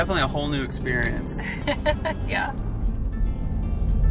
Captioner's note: laughs